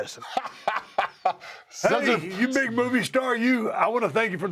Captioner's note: laugh